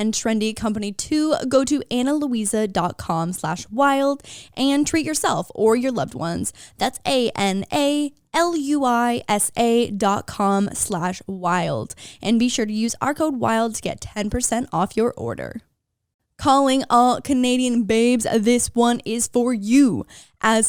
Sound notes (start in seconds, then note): none